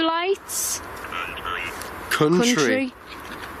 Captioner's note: Ovilus speaking